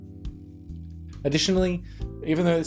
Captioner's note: none